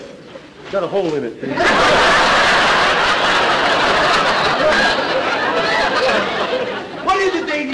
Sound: audience laughter

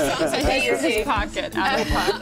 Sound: laughter

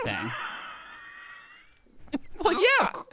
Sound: laughing

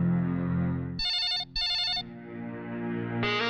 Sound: phone Ringing

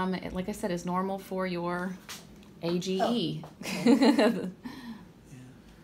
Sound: laughs

